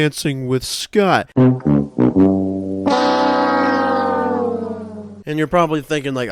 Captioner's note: 'The Price is Right' Losing horn plays